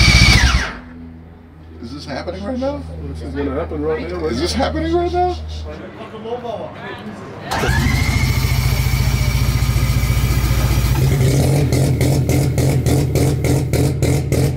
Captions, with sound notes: Is this happening right now, is this happening right now? (car engine starting)